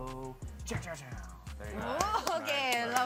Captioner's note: makes bass guitar sounds; applauds